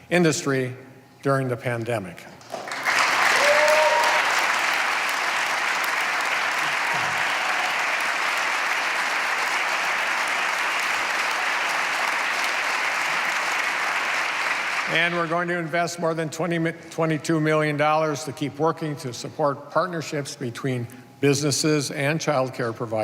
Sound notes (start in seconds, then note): 4.9 applause